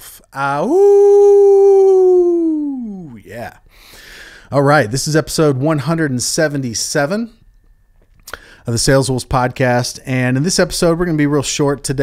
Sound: howl

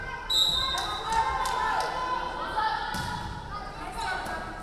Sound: referee whistling

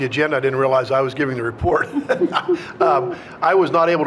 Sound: chuckles

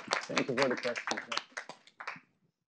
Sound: audience applauding

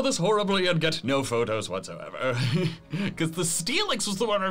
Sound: laughs

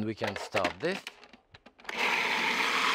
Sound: food processor whirring

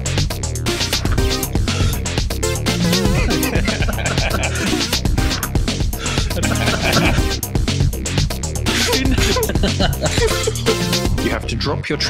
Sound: intermittent laughing

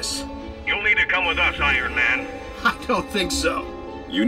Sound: none

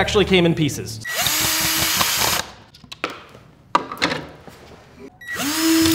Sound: electrical drill buzzing

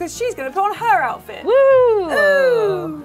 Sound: yell in excitement

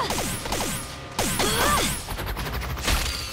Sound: grunting

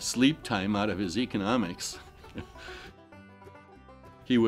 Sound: laughing

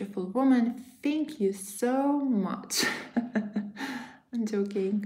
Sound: laughs

